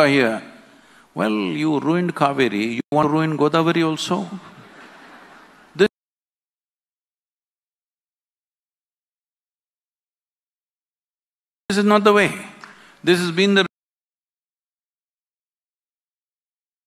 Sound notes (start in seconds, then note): 4.4 laughter